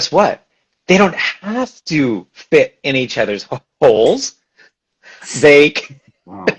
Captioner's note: laughs